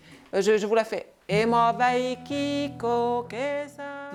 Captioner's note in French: paroles en dialecte d'Estonie